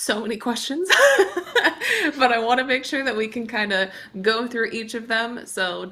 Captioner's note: chuckles